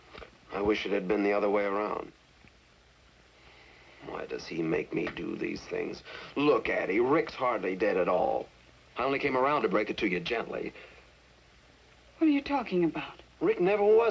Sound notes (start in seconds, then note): 3.8 sighs